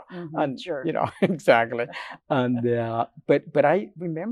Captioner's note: laughs